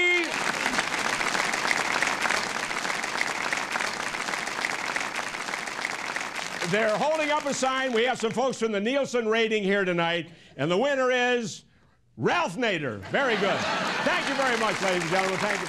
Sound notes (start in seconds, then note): 2.6 applause